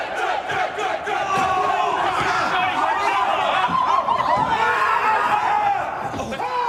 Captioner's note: hubbub